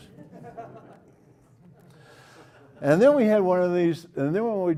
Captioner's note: laugh